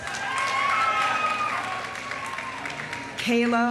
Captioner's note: audience cheering; audience applauding